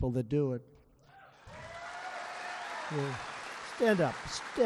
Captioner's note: applause